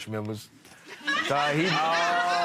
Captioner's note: audience laughing